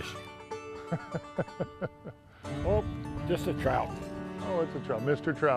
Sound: laughter

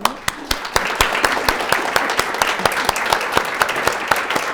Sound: all applauding

